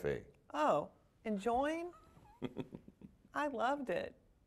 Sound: chuckling

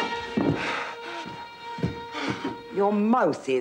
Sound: gasps

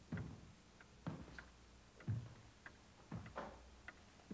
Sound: clock ticking

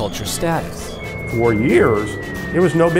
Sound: bomb whistling

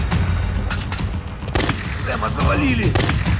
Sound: gunshots

